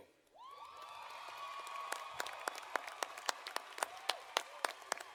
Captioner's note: audience applauding